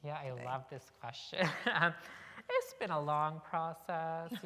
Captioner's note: chuckle